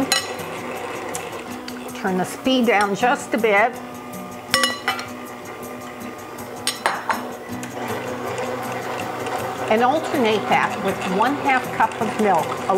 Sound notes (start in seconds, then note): 0.3 machine rumbling; 4.3 machine rumbling; 4.3 utensils cackling